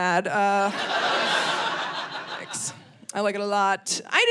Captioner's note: audience laughing